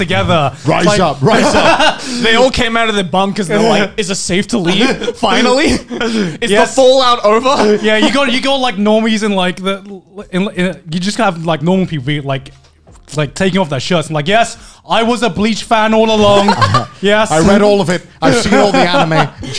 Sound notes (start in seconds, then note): 1.2 laughing; 16.3 laughing